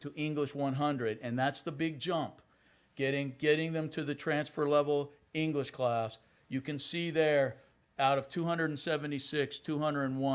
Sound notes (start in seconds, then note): none